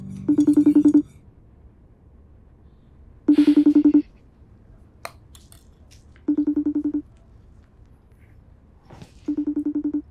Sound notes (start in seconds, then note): 0.9 phone rings